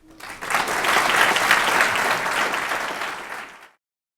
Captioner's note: applause